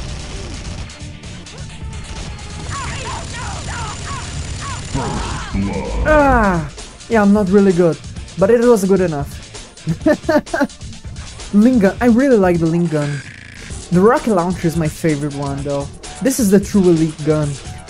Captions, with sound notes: AAHHH, yeah, I'm not really good, but it was a good enough *laughs* linkgun I really like the linkgun. The rocket launcher is my favorite one, though. This is the true elite gun!!